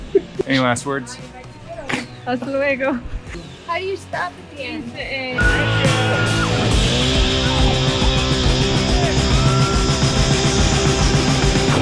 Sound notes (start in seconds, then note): 2.4 speaking foreign language; 6.6 rock music